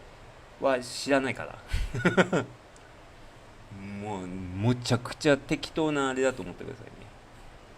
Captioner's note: laughter